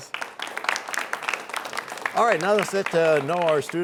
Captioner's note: applause